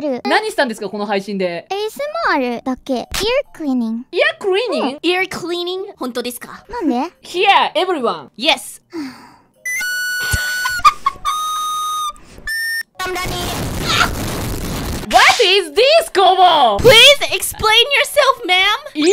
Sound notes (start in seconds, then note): 8.9 sigh